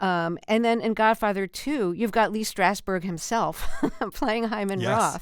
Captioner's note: laughter